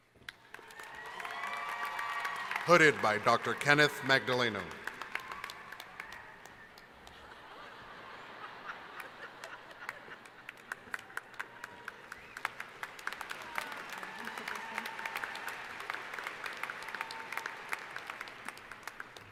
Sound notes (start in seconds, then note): 0.6 applause; 5.6 applause; 7.0 laughter; 12.1 applause